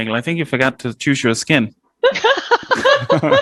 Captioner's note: laughing